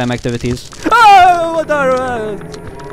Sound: loud scared noises

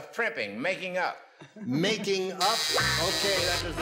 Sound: buzzer

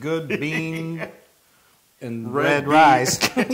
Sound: laugh; laugh

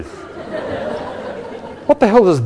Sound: laughing

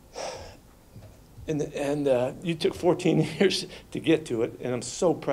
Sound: sighs

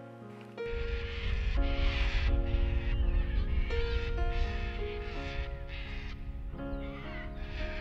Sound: cockatoos screeching

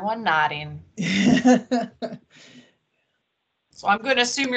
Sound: laughs

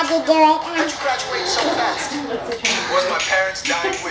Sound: deep breath

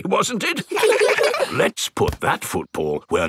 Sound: in normal voice; kids laugh

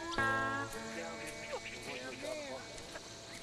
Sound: chattering

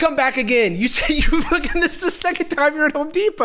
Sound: laughing

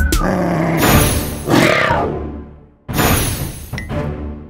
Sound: playful music playing; both snarling; epic music playing

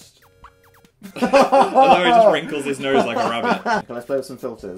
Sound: laughs

